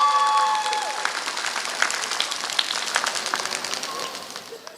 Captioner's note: applause